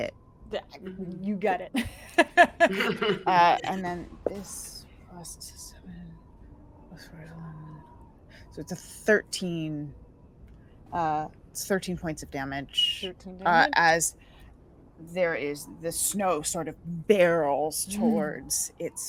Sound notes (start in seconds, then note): 1.8 laughs; 7.0 murmurs faintly